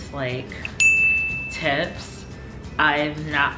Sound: dinging

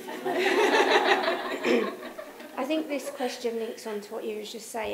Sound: laughter

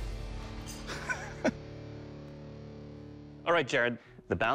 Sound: laughs

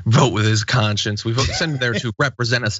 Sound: laugh

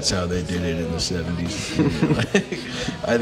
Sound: laughs

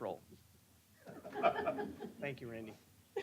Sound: laughter

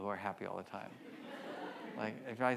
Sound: audience laughs

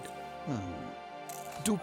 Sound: groaning softly

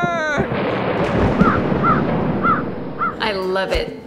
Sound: thunderclap

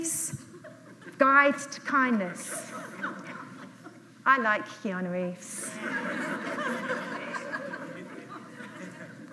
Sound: audience laughs

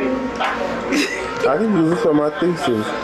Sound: laughs loudly

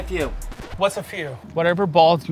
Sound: record scratch

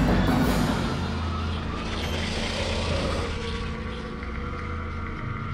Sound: ghostly screeching

